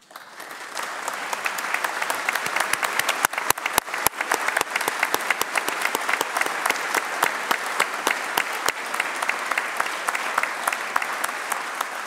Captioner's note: applause